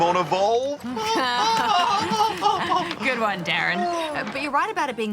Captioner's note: laughs; chuckles